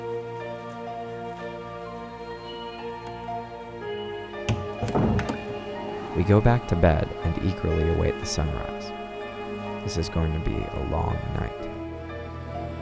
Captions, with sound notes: (eerie music continues) (door closes) We go back to bed and eagerly await the sunrise. This is going to be a long night.